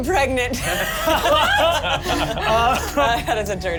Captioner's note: laughs